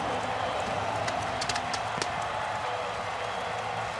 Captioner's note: cheering